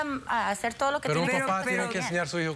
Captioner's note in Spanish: Hablan al unísono